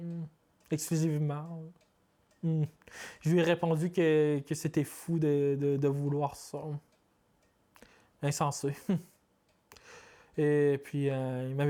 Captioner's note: speaking French